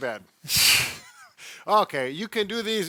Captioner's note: laughs